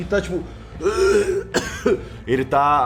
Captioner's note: coughing